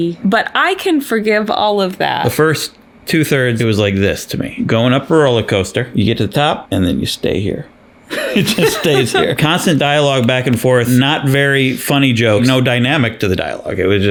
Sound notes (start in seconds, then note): 8.1 laughs